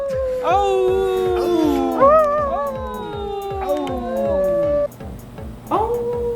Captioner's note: howls in Portuguese